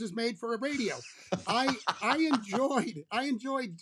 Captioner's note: laughter